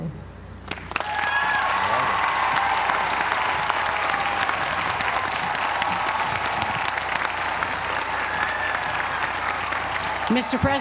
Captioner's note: applause